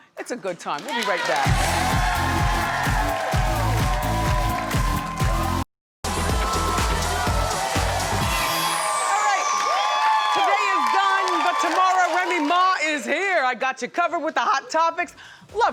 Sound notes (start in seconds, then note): 0.8 audience cheers; 1.4 upbeat music; 10.0 audience cheers